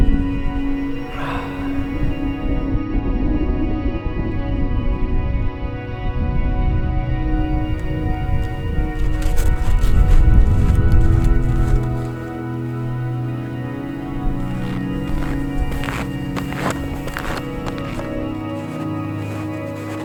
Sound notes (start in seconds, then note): 1.0 sighing; 9.3 icey footsteps crunching; 14.9 snowy footsteps crunching